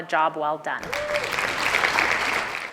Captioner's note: applause